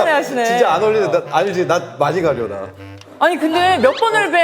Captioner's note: stammering